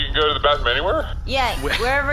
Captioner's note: laughter